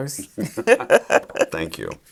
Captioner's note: both laughing